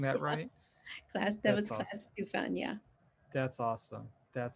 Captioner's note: chuckles